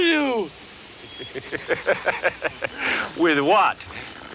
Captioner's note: Ignacio laughs